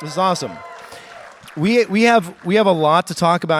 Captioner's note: audience cheers